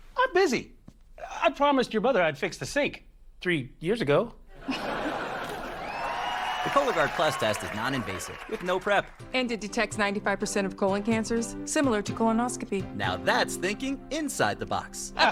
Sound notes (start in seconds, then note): 4.5 audience: laugh track; 5.2 audience: applause